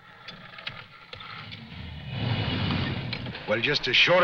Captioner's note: engine revving